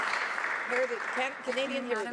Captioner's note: some Applause